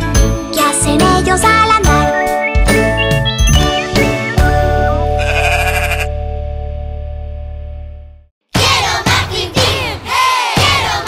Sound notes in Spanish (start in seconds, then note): 5.1 Sonido de oveja